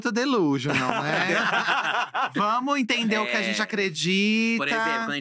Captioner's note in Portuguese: risos